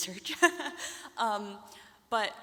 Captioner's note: laughs